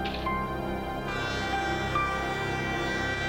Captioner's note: train horn